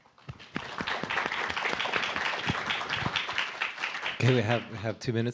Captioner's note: applause